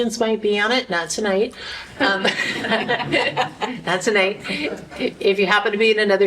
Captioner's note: laughter